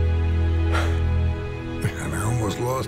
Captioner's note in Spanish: suspiro